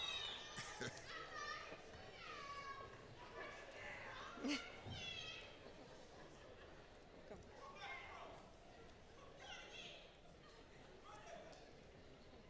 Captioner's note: applause